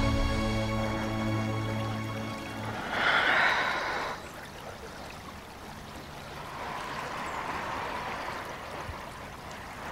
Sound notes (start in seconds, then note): 2.8 Gabriel exhales; 6.8 river flowing